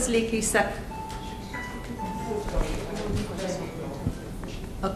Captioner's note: phone rings in audience